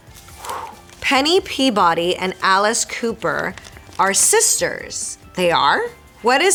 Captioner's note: Marisol reading fan letter aloud